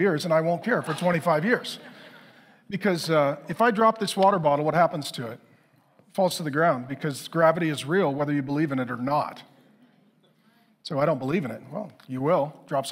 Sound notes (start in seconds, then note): 0.5 congregation laughing; 10.1 congregation chattering